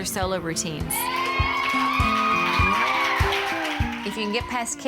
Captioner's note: contestants cheer